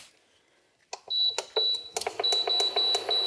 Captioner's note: beeps